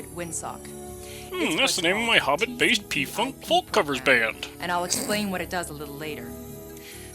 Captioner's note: snickers